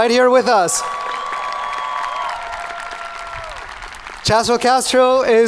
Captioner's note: audience cheering